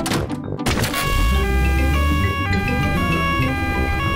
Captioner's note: siren wailing